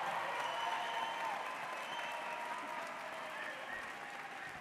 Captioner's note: audience cheers